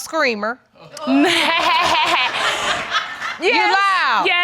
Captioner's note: laughing